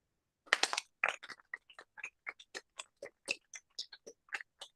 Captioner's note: applause